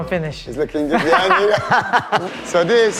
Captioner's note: laughing